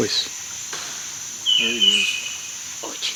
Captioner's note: wood snapping in distance